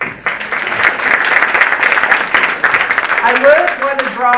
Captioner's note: audience applauding